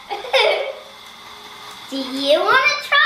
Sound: laughing

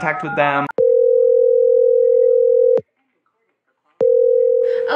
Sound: phone ringing

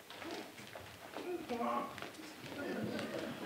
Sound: brays

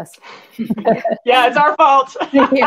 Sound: all chuckle; all laugh

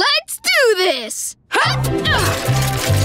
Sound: grunting

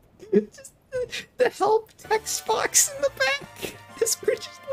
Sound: still laughing

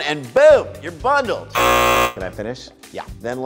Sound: buzzer

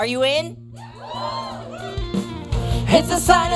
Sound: crowd cheers

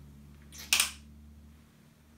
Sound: click

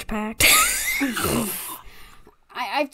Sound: laughs

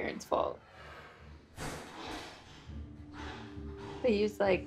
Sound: banging and creature noises from TV

